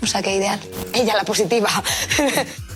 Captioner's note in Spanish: Risas